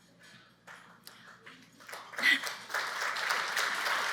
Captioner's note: clapping